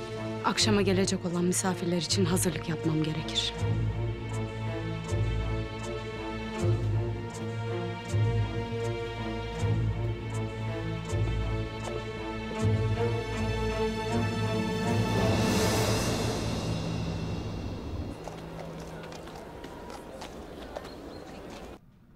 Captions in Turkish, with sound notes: Akşama gelecek olan misafirler için hazırlık yapmam gerekir. (Müzik - Gerilim) (Ayak sesleri) (At nalı sesi)